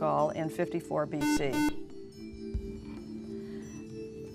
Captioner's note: buzzer